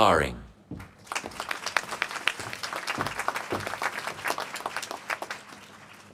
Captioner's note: applause